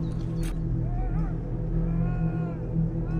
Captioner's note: blood curdling scream